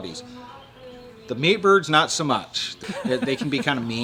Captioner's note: laughing